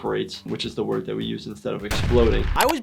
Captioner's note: explosion booming